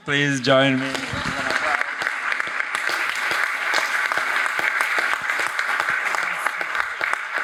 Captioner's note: panelists applaud; audience applauds